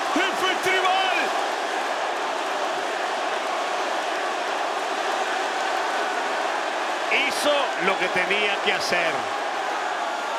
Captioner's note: applause